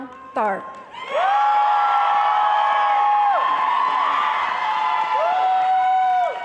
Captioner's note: cheering and applause